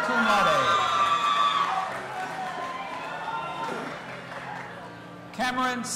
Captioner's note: audience applauding and cheering